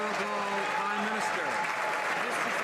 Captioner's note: some Applause